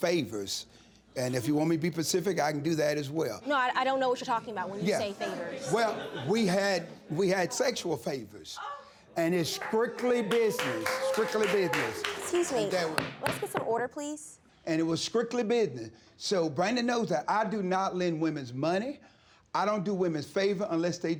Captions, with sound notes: And if you want me to be specific, I can do that as well. No. I don't know what you're talking about when you say "favors." (AUDIENCE MURMURING) Well, we had... We had sexual favors. And it's strictly business, strictly business. (WHOOPING AND APPLAUDING) Excuse me. Let's get some order, please. And it was strictly business. So Brandii knows that I do not lend women money, I don't do women favors unless they do me favors.